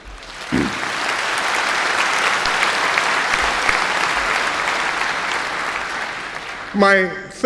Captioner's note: applause